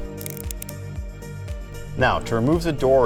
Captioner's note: words clicking